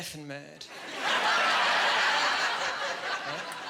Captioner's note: laughing